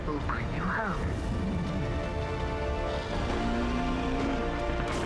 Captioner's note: roaring